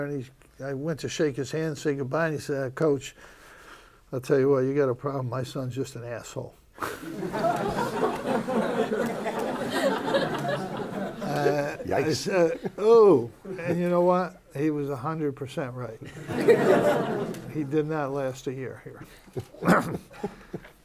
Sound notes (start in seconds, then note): 6.9 laughter; 16.0 laughter